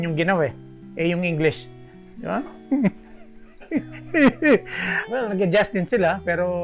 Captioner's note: laughter